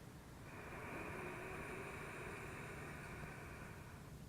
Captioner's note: loud breathing